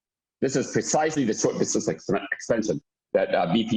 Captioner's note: murmur